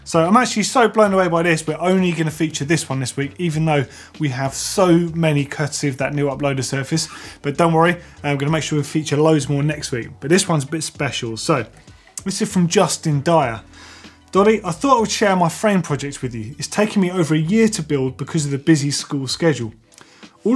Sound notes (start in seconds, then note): none